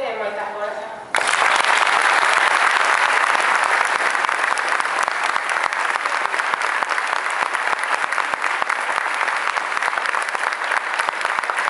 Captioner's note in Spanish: Aplausos